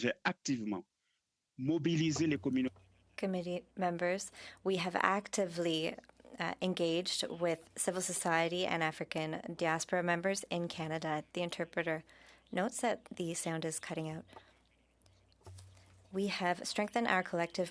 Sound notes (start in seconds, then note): 5.5 speaking French